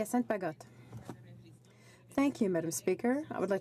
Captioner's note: speaking French